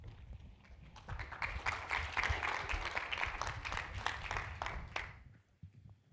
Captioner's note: applause